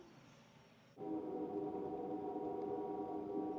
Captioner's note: train horn blows